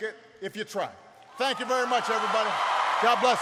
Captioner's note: applause